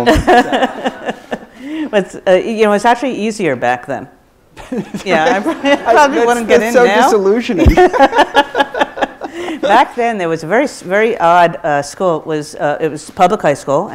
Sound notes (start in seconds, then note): 0.0 laughs; 7.6 both laugh